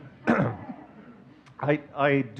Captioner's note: audience chuckling